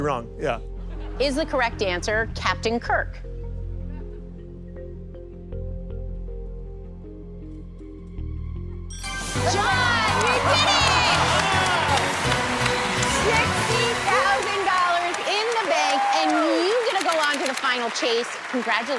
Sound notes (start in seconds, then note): 8.9 ding; 11.0 laughs